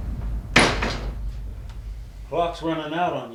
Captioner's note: door slams